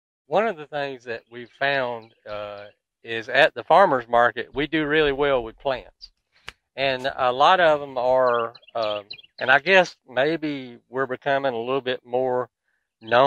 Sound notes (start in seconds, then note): 1.7 birds twittering; 6.3 hand taps; 6.8 birds twittering; 13.0 birds twittering